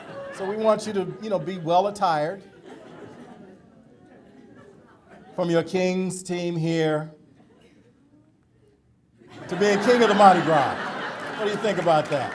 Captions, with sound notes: SO WE WANT YOU TO, YOU KNOW, BE WELL-ATTIRED FROM YOUR KING'S TEAM HERE TO BEING KING OF THE MARDI GRAS [AUDIENCE LAUGHTER AND APPLAUSE]. WHAT DO YOU THINK ABOUT THAT?